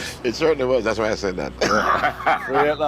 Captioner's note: laughing